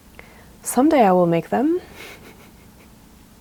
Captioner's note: soft laughter